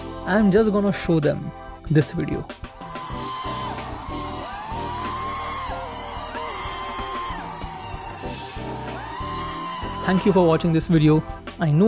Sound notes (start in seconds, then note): 2.7 cheering